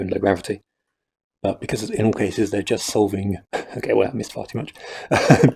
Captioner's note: laughter